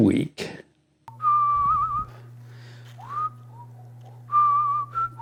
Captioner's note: casual whistling